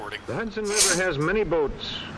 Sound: Starch laugh-snorts

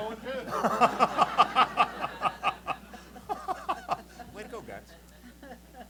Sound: laughter

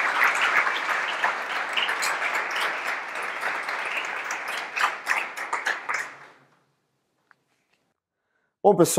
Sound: applause

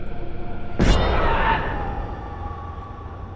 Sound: scream

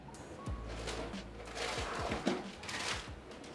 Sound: supplies rustling; cabinet sliding; paper bag crinkling

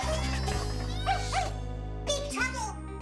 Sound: Lulu barking

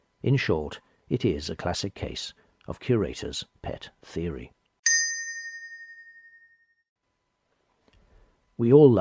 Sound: slightly comical bell sound

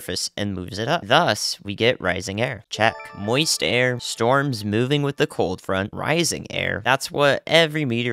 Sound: ding

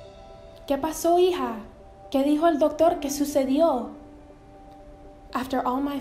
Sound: speaking in foreign language

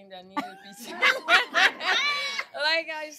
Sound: laughter

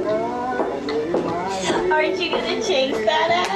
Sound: footsteps approaching

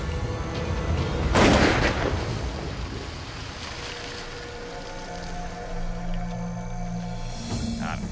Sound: gun shot

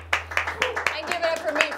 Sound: applauding

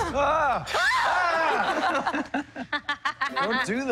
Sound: laughter

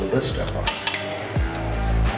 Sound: tether snaps

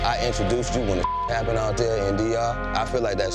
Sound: beep

